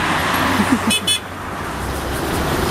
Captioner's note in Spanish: risas; bocinas